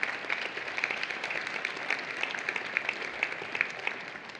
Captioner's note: applause